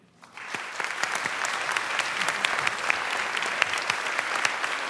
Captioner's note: applause